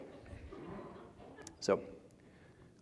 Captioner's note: laughter